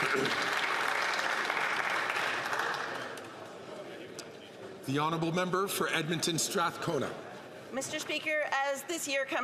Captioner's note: some Applause